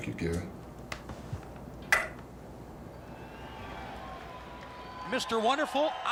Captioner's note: crowd cheering